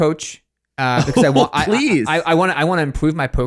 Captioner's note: chuckles